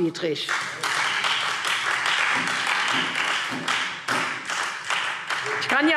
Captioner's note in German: Beifall Freie Demokraten